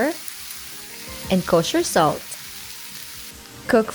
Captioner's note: sizzling